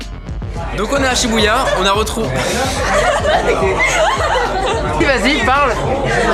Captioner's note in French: rires